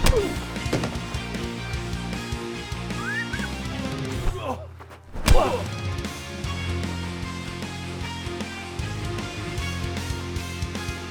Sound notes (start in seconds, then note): 3.0 Waco Kid whistling